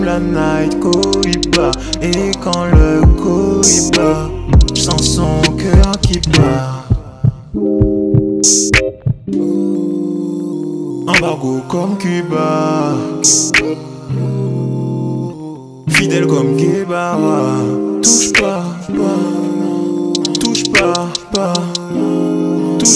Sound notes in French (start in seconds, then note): 6.8 battement de cœur